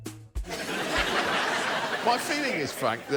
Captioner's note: laughter